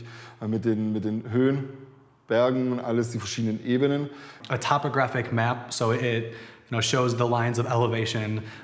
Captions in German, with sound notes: Sondern es war mit den Höhen, Bergen, die verschiedenen Ebenen. (englisch:)